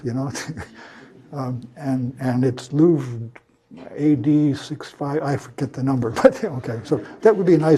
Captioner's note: laugh